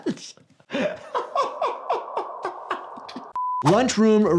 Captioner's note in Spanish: el doctor se ríe